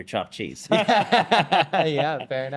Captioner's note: both laughing